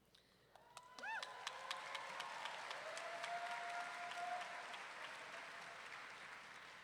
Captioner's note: audience members whooping and clapping